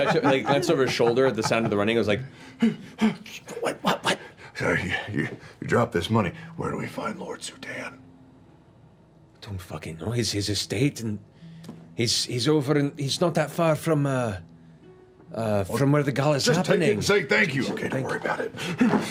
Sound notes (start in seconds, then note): 6.6 whispering; 17.4 whispering